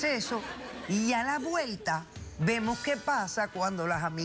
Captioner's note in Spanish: risas